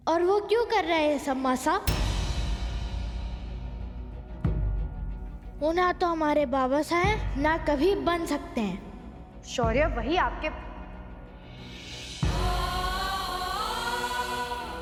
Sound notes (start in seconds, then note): 12.3 poignant vocalisation